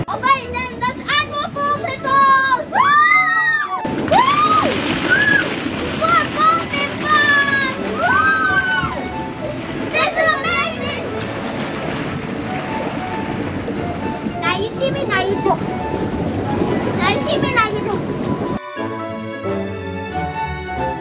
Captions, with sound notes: All right then let's add more ball pit balls! Woo! Woo! (screams) - More ball pit balls! (both scream excitedly) - This is amazing! - Now you see me, now you don't. Now you see me, now you don't. (lively music)